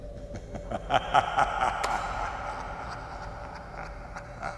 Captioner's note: menacing laughing